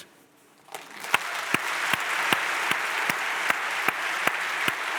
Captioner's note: audience applauds